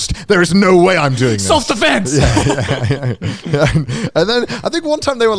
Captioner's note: laughing